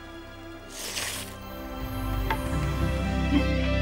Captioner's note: slurping loudly; dramatic music